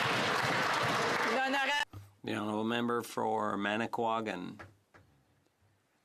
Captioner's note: some Applause